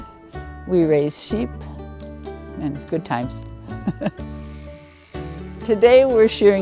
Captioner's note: laughs